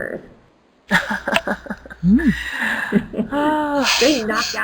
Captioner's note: laughs